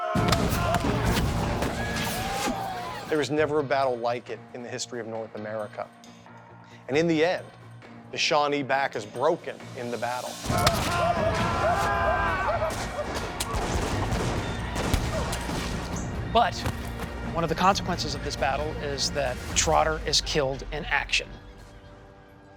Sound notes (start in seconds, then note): 0.1 gunfire; 10.6 gunfire; 10.6 yelling; 12.7 gunfire